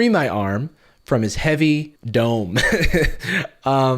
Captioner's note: laughs